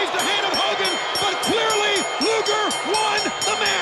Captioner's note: bell ringing